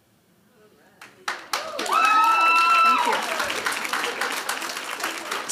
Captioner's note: applause and cheering